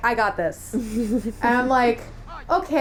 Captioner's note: laughter